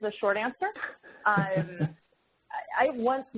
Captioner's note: chuckling